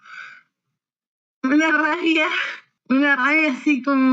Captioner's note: sigh